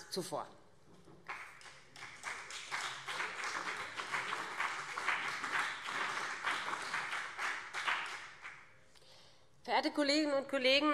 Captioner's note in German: Beifall BÜNDNIS 90/DIE GRÜNEN und CDU